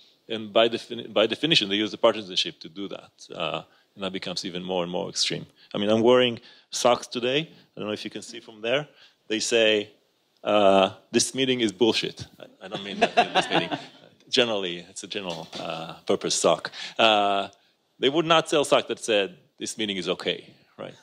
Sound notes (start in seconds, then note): 12.7 laughs